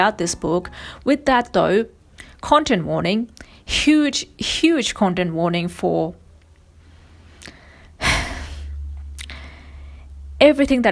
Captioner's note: sighs